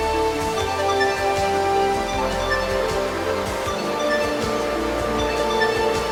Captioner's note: discovery music; waterfalls sounds